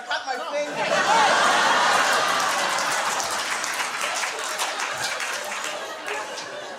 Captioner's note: laughter and applause